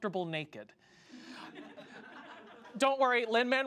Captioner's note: audience laughs